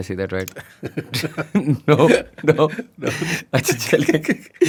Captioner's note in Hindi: हंसी